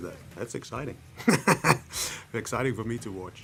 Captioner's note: laughs